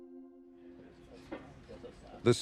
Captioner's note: murmurs